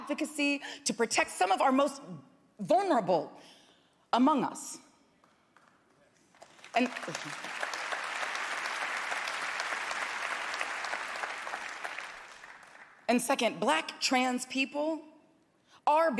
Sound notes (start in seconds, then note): 5.5 applause